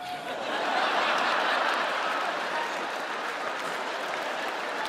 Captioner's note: audience laughs